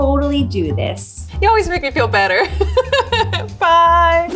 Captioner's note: laughs